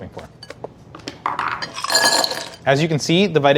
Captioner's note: ice rattling